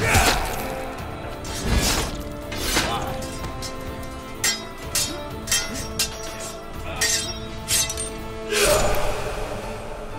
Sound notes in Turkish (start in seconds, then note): 4.3 Kılıç sesleri